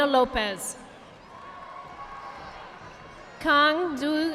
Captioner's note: audience applauding